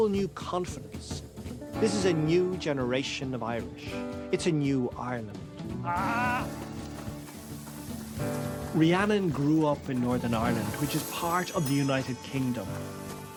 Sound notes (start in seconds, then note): 5.8 groans; 9.0 voice-over